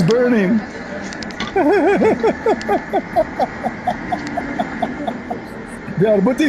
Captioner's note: Ketawa